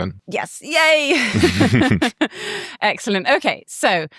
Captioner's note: laughing